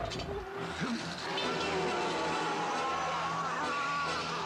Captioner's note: undead moaning